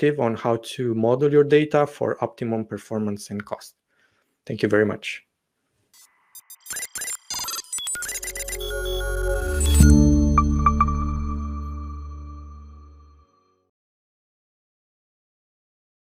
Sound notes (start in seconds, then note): 6.0 graphics warbling; 9.7 logo chimes